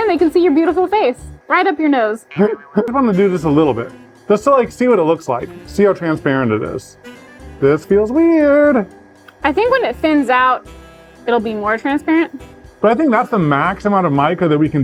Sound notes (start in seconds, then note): 2.3 laughs